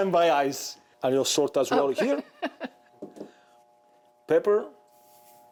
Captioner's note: laughs